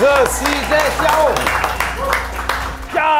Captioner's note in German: Applaus